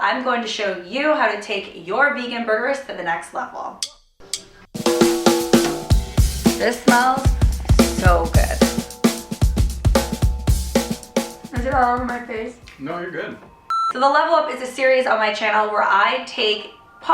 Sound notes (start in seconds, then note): 3.8 upbeat happy music; 9.0 upbeat happy music; 13.6 beep